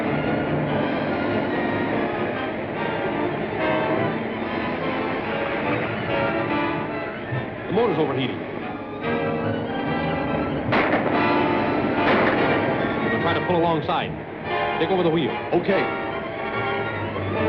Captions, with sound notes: The motor's overheating. [GUNSHOTS] We'll try to pull alongside. Take over the wheel. OK. [SUSPENSEFUL MUSIC]